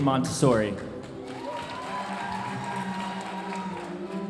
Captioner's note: audience applauding